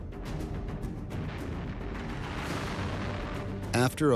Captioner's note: tank firing